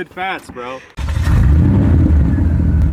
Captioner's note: engine turning over